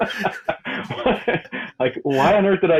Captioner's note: both laughing